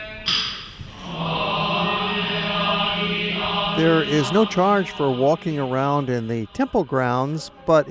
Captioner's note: chanting